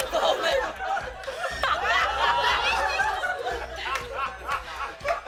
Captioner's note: laughter